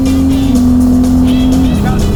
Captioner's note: engine roaring; upbeat music